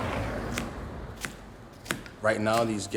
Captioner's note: knife chopping